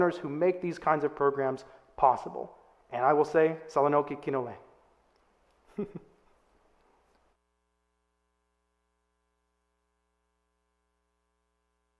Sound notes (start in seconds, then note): 4.0 speaks in foreign language; 5.6 chuckles